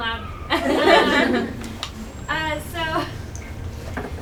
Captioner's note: attendees laugh